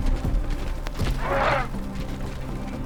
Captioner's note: squawking